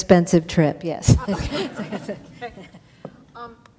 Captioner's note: laughter